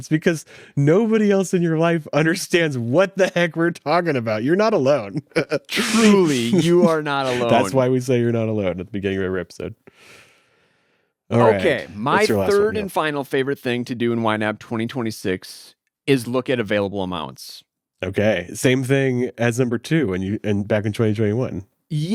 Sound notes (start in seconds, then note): 5.6 laughs